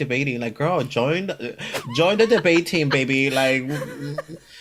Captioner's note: laughs